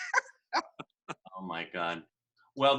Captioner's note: laughing